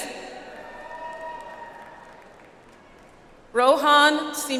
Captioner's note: audience applauds